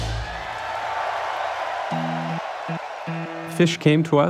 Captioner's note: cheering